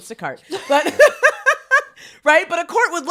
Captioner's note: women laughing